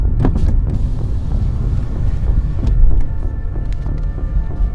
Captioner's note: car window rolling down